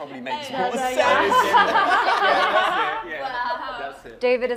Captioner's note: laughter